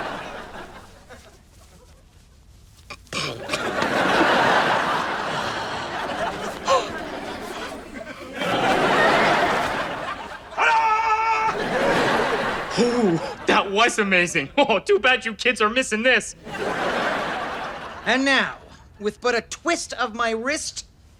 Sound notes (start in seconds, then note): 8.3 shouts; 16.4 audience laughter